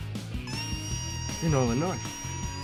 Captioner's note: squealing